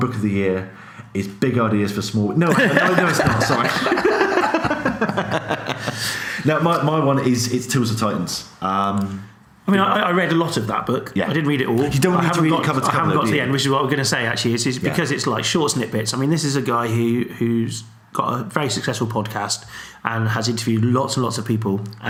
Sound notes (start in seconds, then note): 2.5 laughs